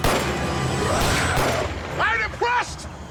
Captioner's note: gunshots